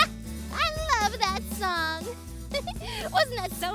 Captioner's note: giggling